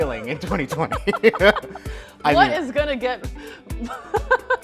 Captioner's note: both laugh